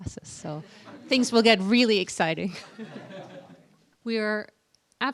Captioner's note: laughter; laughter